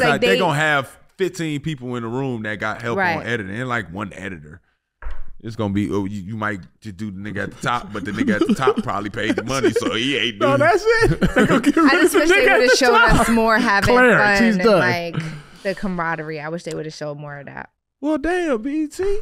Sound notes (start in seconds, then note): 10.8 laughing